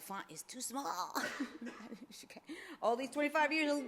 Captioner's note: laughs